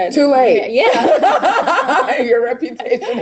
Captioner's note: laughing